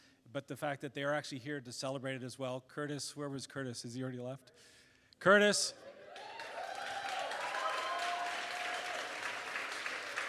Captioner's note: applause